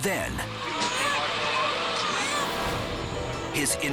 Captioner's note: cries